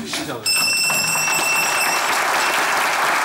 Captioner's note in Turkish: Zil sesi